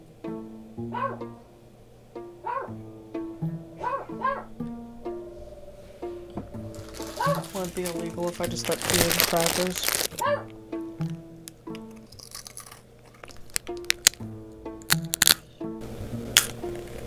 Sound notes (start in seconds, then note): 11.4 soft crunch; 14.8 cronch